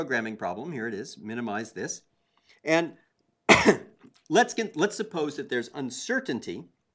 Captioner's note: cough